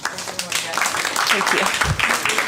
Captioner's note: applause